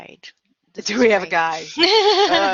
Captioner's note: laughter